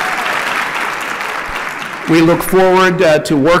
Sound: applause

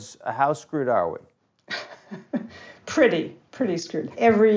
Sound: chuckling

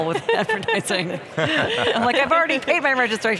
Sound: laughing

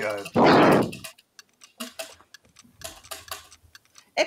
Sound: wheel ticking

